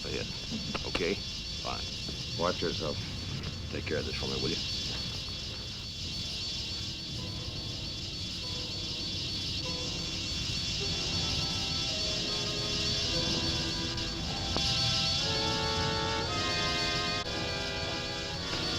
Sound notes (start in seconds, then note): 6.3 tense orchestral music; 6.3 wasps buzzing